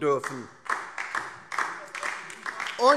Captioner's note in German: Beifall DIE LINKE